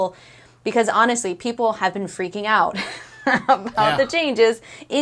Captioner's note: laughs